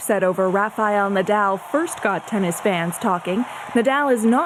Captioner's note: cheers and Applause